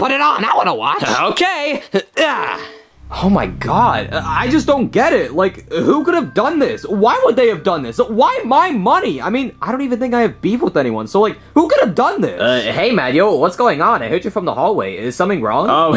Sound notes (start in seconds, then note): none